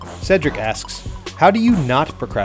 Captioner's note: voiceover